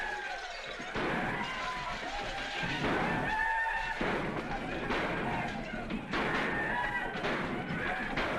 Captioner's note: whooping and gunshots continues